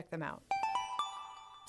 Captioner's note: chime